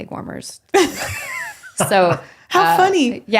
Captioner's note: laughing